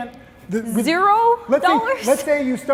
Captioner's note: laughs